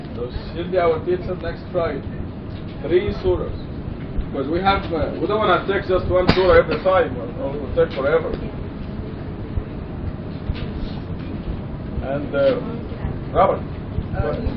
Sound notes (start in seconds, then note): none